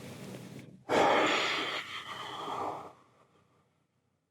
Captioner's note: heavy breathing